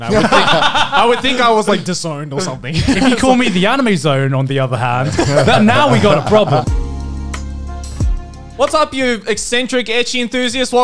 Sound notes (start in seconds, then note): 0.0 laughing; 2.7 both laughs; 6.9 upbeat soft music